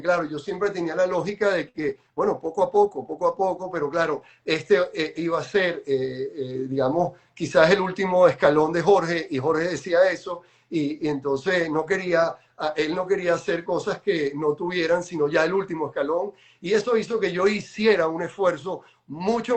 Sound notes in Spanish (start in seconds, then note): none